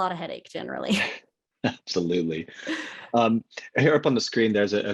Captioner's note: laughing